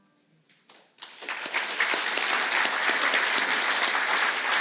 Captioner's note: applause